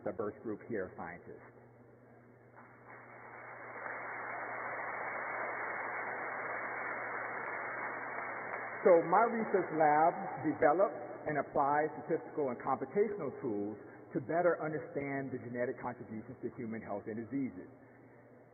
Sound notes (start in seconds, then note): 10.0 applause